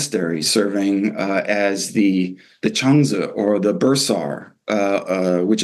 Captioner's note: non-english